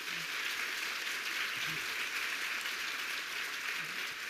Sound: audience applauding

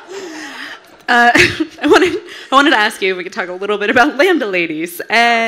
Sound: everyone laughing; laughs

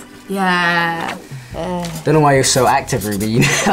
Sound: air whooshes; laughs

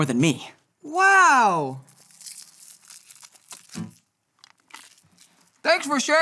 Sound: candy wrapper rustling

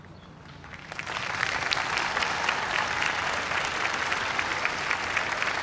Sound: applause

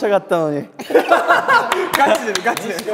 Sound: hahahahaha

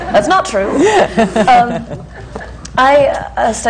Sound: laughter

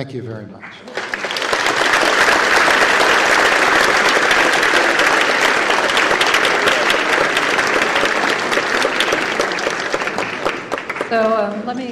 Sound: applause

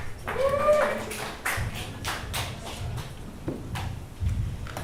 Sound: audience claps and cheers

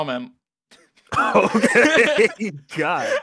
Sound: they laugh

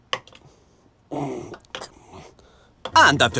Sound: grunts in French

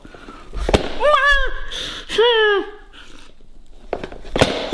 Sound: exclaims

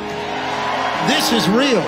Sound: audience cheers and applauds

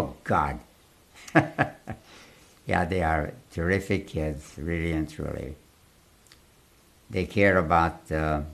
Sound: laughs

